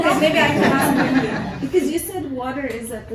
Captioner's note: laughter